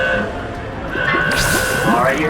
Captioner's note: swoosh